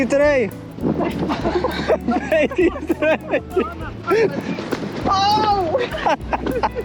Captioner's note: laughs